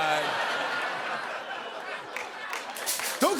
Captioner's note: laughter